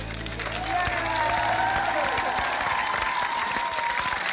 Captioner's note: cheering and applause